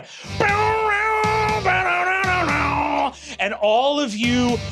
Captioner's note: mimicking rad rock music